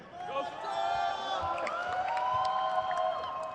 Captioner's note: crowd cheers